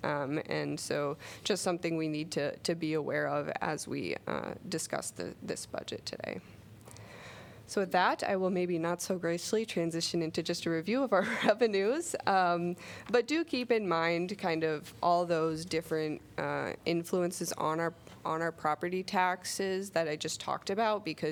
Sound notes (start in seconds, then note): 11.2 laughter